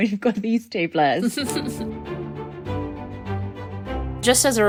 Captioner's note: upbeat music; laughing